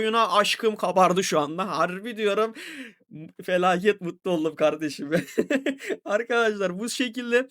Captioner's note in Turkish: kahkaha